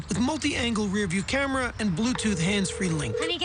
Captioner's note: outgoing call ringing